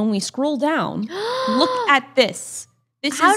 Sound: gasps

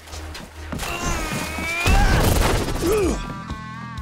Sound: grunting

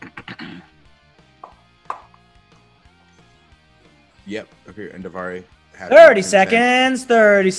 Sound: cough

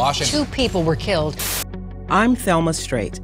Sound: static crackling

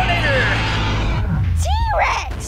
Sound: roar

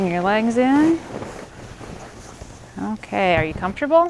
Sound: blanket rustling

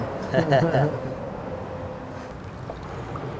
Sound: both giggle

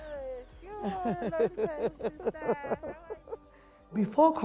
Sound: laughs

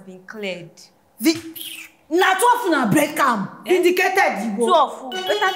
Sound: kisses lips

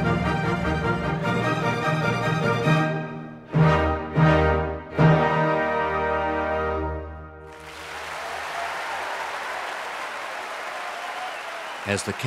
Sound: applause

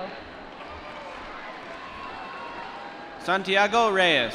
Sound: applause

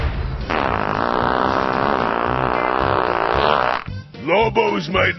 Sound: explosion; Lobo farts

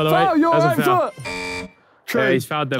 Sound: buzzer buzzing

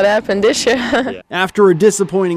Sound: laughs

